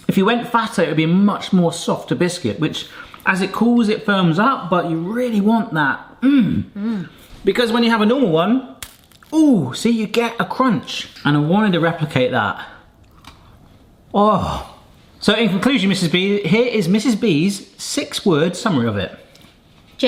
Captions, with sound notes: If you went fatter, it would be much more softer biscuit which as it cools it firms up. But you really want that, mm. - Mm. - Because when you have a normal one, (biscuit cracking) ooh, see? You get a crunch. And I wanted to replicate that. (biscuit crunching) Oh, so in conclusion, Mrs. B, here is Mrs. B's six-word summary of it.